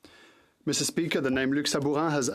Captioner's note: speaking French